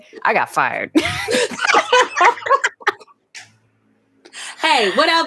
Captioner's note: both laughing